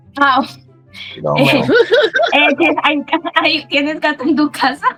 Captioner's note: laughs at the interpreter's reaction